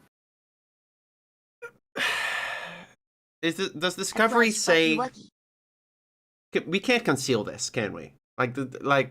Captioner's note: sigh